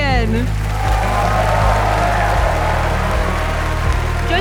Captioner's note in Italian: applausi e grida